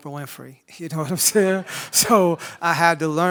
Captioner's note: audience laughs